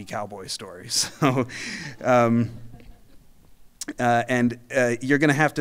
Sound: audience laughing

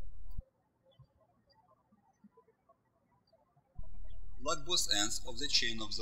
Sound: birds chirping

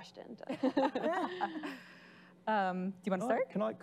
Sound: laughing

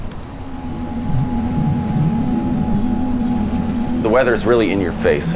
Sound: harmonic vibrating

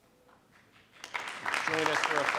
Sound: audience applauding

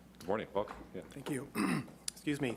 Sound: clearing throat

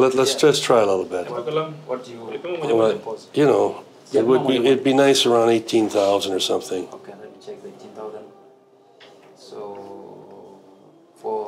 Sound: speaks Swahili; mumbles numbers

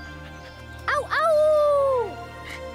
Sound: yelping

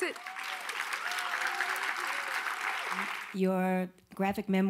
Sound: audience applauding

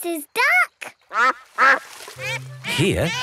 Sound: quacks

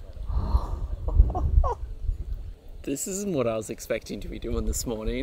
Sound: laughing

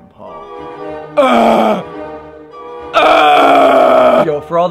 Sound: moans

